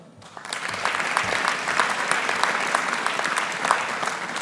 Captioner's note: audience applauding